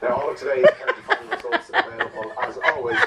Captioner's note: laughs